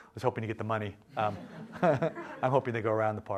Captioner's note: laughter